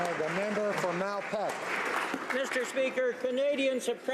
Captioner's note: applause